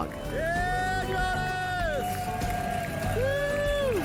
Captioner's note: cheers and applause